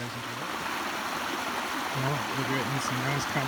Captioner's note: sound of Water